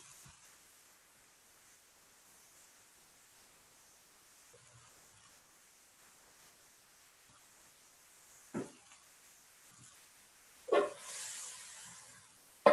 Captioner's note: silence